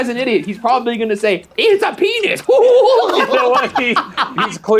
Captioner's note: laughs